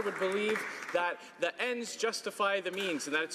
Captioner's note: some Applause